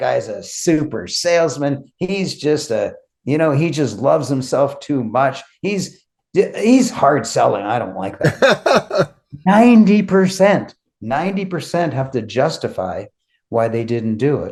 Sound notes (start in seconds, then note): 8.2 laughing